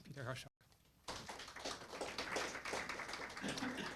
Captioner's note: applause